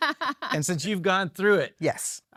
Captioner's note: laughs